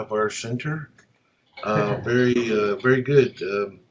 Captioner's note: laugh